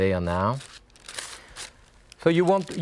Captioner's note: paper scrapes